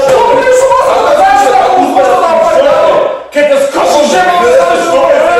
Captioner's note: both yelling simultaneously about the consequences